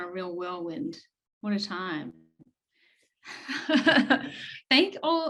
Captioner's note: chuckles